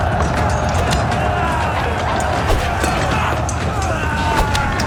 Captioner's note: battle cries and battle sounds